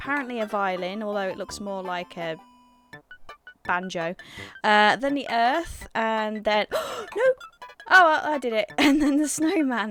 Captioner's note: gasps